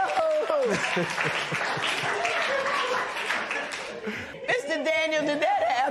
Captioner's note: laughter and applause